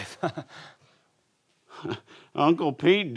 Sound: chuckles

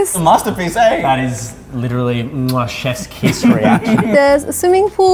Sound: kisses hand

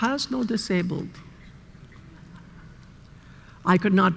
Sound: laughter

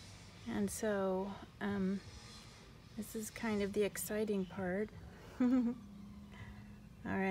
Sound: laughs

